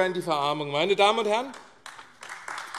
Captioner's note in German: Beifall AfD